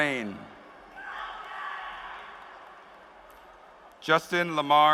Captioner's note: applause